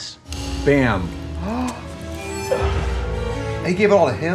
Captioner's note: Trixie gasps